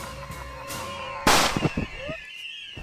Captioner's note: gun shot